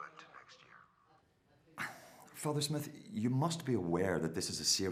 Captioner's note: sighs